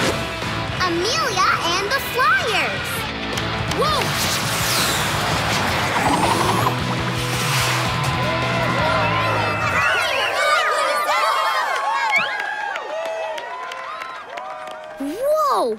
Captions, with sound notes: Amelia and the Flyers! Whoa! [cheering] Whoa!